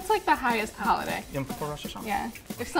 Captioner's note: speaking in foreign language